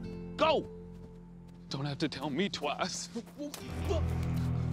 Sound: whimpers

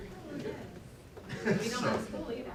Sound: laughter

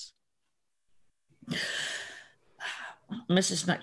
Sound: sighs

